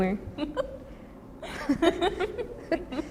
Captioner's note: both laugh